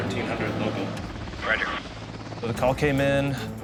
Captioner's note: man Over Radio